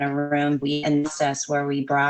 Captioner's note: glitches